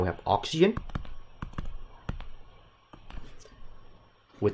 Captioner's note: keyboard tacks